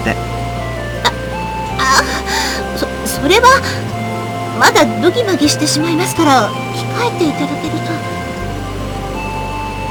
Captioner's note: rain